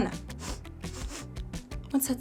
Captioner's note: gently sniffles